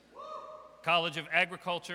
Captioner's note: audience cheers